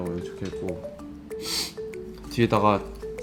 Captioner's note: sniff